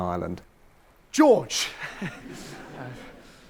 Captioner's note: audience laughs